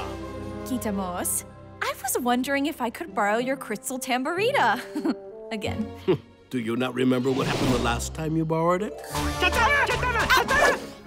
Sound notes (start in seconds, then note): 4.8 chuckles; 9.4 laughs nervously